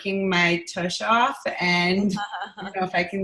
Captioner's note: laughing